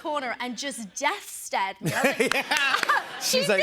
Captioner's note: laughter